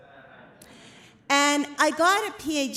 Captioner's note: laughter